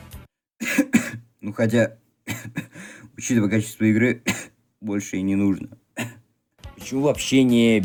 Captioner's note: cough